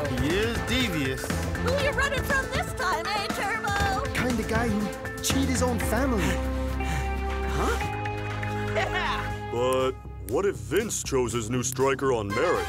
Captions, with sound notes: - He is devious. - Who you running from this time, eh, Turbo? - Kind of guy who would cheat his own family. (panting) - Huh? Yeah! - But what if Vince chose his new striker on merit?